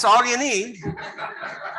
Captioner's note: laughter